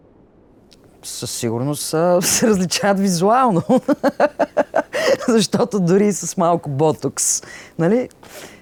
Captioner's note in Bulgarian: смее се